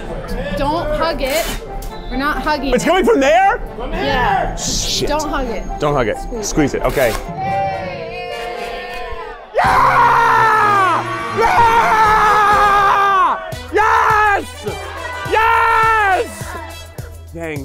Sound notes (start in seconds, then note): 7.6 cheering; 9.5 screaming